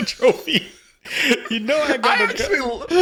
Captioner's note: both laughing